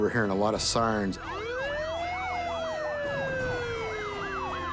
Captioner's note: sirens wailing